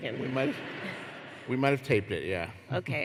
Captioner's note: laughter